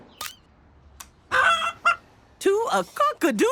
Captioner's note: clucking